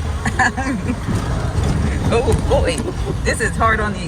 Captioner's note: woman laughing